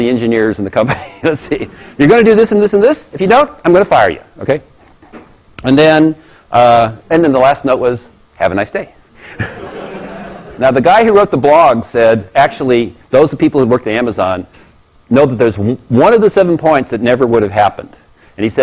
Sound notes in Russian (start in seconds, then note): 0.9 Смех; 9.3 Смеется